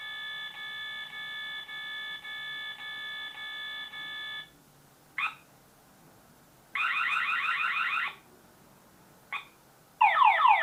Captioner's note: siren